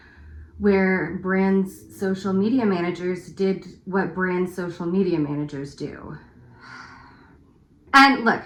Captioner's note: beleaguered sigh